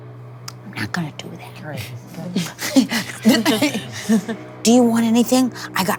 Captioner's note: players chuckling